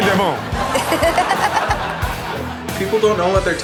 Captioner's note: Chanel laughs